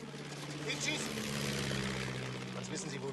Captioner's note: speaking in german